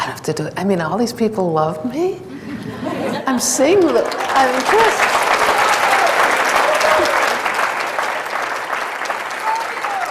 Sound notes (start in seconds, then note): 2.3 audience laughs; 5.3 audience cheers and claps